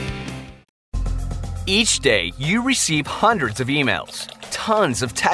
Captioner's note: upbeat music; voiceover